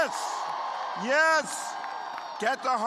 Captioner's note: cheers and applause